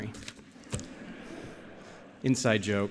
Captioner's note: laughter